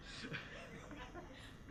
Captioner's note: laughter